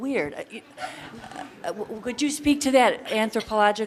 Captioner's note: audience laughter